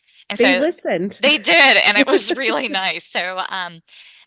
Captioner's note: laughs